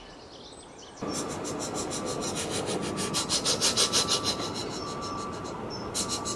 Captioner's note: thomas puffing past